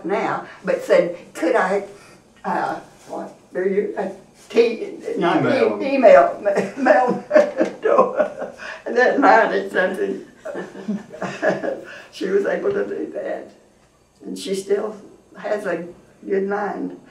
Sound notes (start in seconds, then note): 3.6 laughs